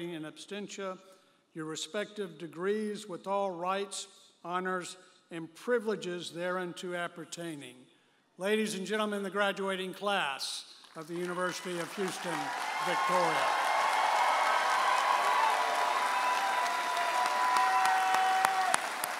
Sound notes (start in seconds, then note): 13.5 audience applauding and cheering